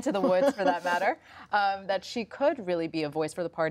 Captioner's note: laughs